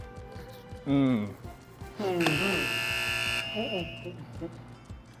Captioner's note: buzzer pressed